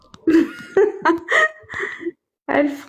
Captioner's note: laughs